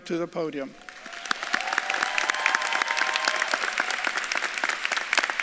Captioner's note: audience claps and cheers